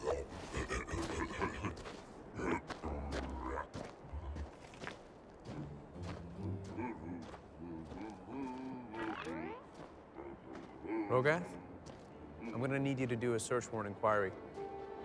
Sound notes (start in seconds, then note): 6.2 drunk alien humming continues